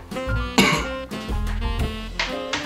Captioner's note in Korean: 콜록